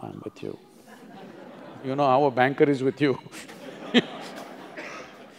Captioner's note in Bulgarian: смях; Смях